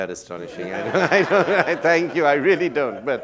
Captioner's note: laughter